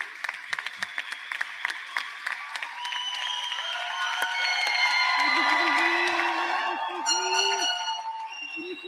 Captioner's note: applause; cheers and applause